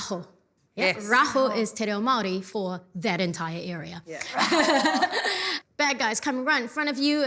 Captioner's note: laughs